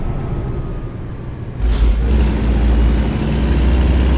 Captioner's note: engine revving